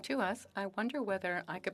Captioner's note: speaking French